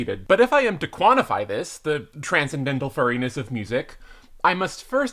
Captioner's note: none